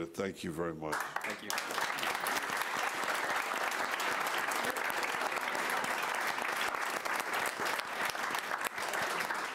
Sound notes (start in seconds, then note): 2.2 applause